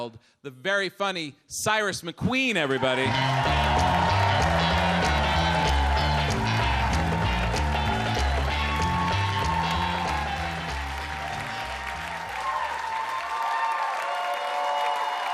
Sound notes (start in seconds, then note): 2.7 upbeat music; 2.9 audience cheers